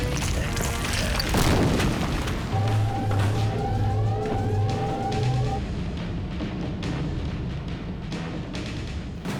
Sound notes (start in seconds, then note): 1.4 thunderous thud; 2.5 alarms blaring